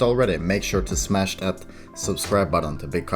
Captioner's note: breath